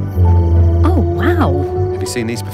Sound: ethereal music continues; creature bellows

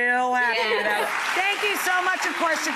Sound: applause

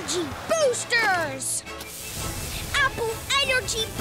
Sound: electricity crackling

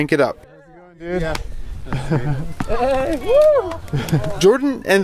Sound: laughing and cheering

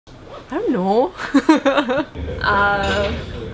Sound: giggles

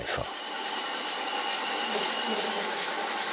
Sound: light whirring

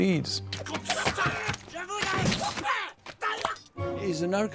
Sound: kung-fu shouting

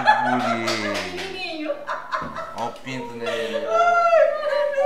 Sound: clap clap; laughter

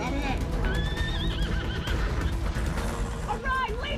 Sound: horses neighing

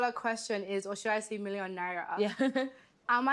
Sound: laughs

